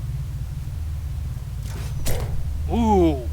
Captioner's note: crossbow shot